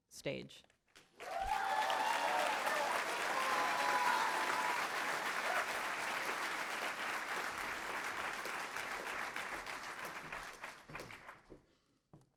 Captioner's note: applause